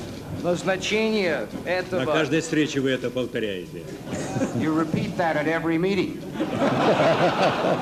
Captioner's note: laughter